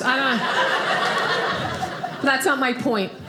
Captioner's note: audience laughing